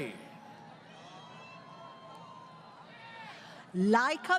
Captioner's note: crowd Cheering